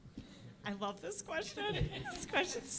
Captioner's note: audience laughing